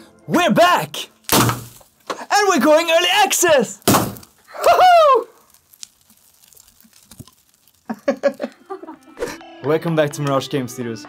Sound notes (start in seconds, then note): 1.2 boom; 3.9 boom; 7.9 laughter